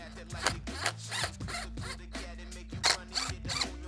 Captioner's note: whirring machines